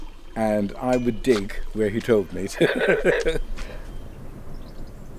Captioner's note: laughs